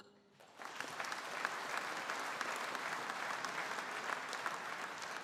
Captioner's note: audience applauding